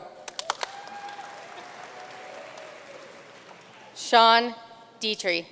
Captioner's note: audience cheering and applauding